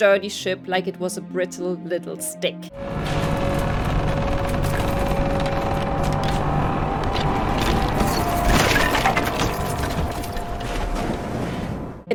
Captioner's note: sound of a ship being crushed by ice